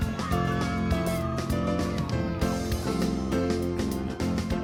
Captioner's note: children cheering